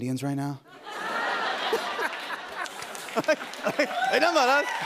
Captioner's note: laughter